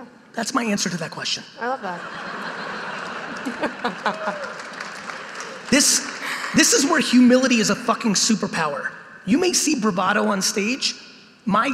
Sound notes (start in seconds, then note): 1.8 audience laughing